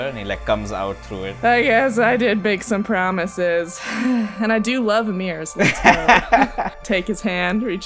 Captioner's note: sighs; laughter